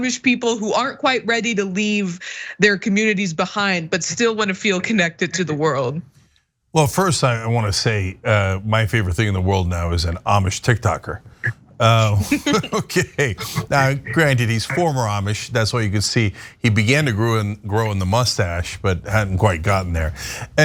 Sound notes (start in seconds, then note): 11.8 laugh